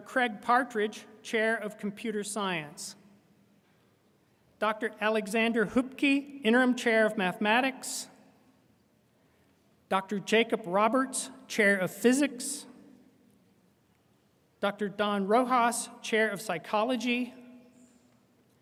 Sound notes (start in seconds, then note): none